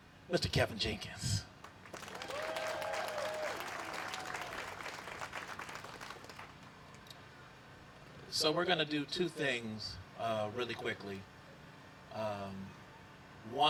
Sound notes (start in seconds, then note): 1.6 applause